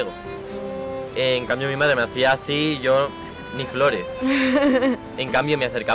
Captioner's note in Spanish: risas